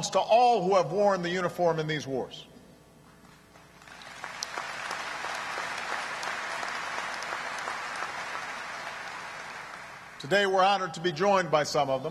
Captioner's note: applause